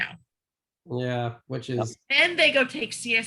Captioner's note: tender Voice